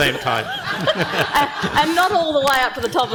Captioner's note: panel and audience laughing